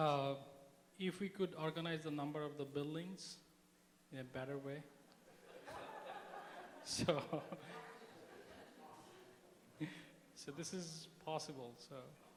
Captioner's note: laughter